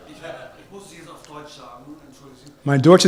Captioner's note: speaks German; German: Mein Deutsch ist einfact. Langsam, bitte